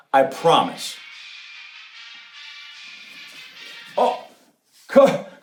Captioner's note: phone rings